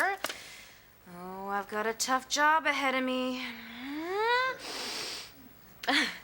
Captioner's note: sighs